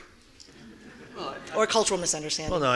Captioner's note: audience laughing